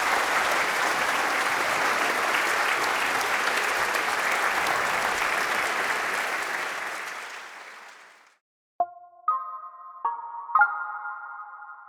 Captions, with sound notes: And thank you for coming here. [APPLAUSE]